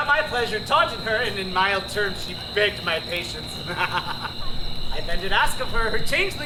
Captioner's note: laughs